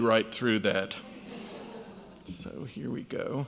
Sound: audience laughs

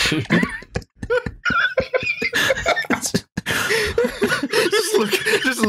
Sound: laughter

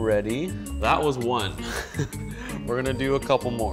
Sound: chuckling

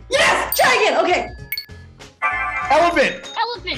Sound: timer chiming

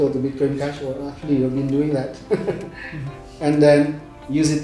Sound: laugh

